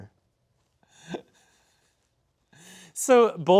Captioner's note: snickering